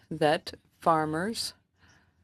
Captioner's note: speaking French